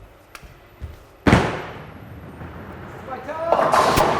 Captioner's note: bowling balls bang